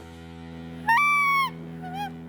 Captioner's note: high-pitched sound